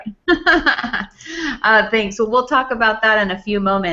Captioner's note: laughs